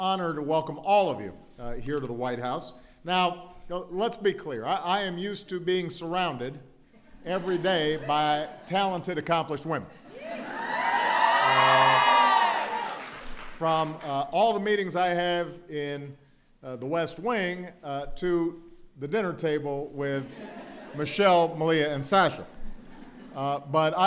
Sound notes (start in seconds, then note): 10.6 applause; 20.2 laughter